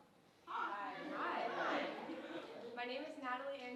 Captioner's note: audience greeting speaker